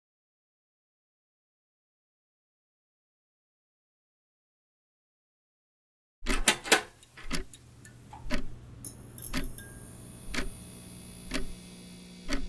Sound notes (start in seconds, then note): 7.2 clock ticking